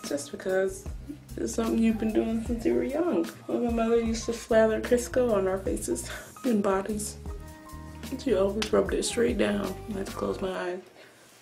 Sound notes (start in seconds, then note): none